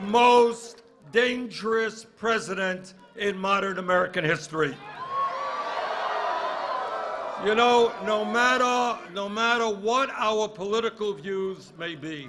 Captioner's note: cheers and applause